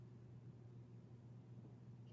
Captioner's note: speaking French